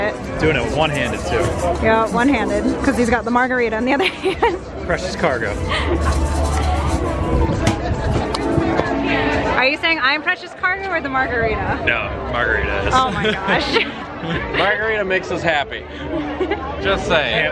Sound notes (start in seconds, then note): 13.0 laughig